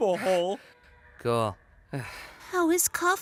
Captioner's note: groans